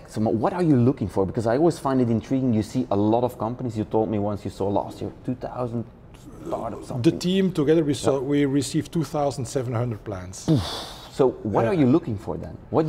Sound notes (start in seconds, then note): 10.5 blows air